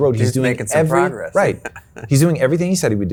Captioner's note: chuckles